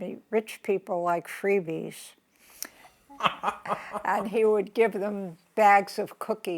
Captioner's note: laughs